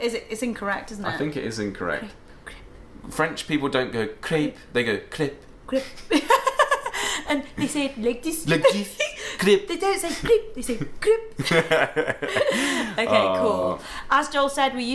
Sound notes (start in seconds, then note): 5.8 both laugh; 11.4 both laugh